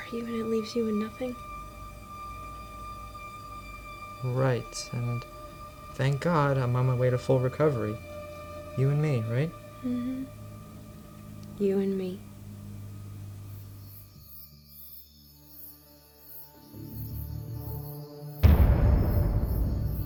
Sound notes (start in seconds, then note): 13.9 crickets chirping; 15.1 foreboding music